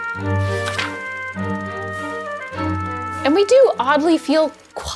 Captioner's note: intriguing music; paper rustles